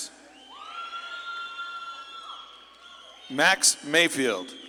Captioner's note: audience claps and cheers